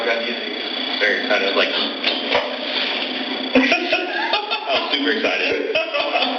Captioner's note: laugh